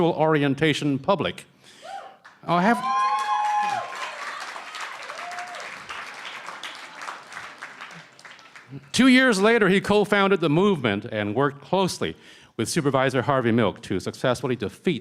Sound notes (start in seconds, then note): 3.4 cheering & Applause; 4.7 shouting; 7.4 cheering & Applause